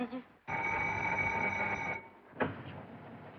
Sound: phone Ringing

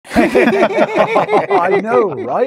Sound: laughing

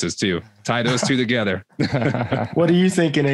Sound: all laughing

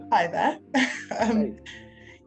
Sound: laughing

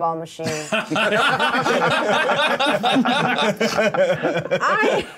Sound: co-hosts laughing

